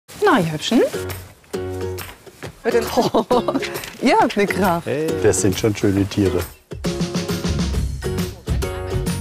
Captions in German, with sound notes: . (Lachen) Ihr habt ja Kraft! - Das sind schon schöne Tiere. (Beschwingte Musik)